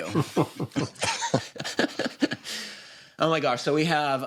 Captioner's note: laughter